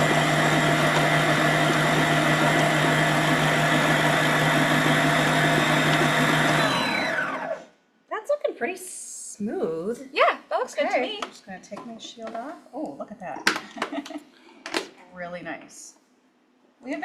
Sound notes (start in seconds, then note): 6.6 mixer beeps; 13.6 laughs